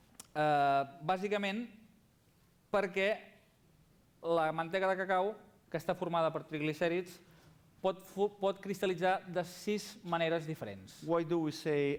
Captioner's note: non-english speech